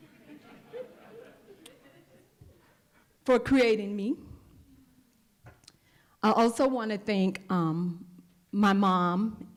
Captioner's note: laughter